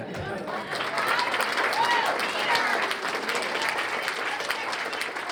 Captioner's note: cheers and applause